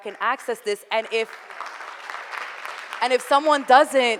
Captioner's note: audience applauding